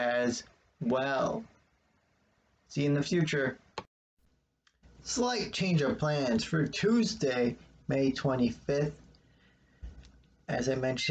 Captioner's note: click